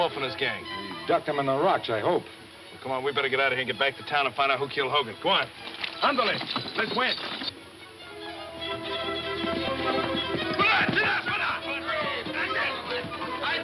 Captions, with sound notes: - We ducked 'em in the rocks I hope. - Come on, we better get outta here and get back to town and find out who killed Hogan. Go on. Andale. - Let's went. (tense music) (men shouting)